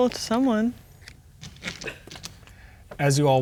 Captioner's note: pieces clattering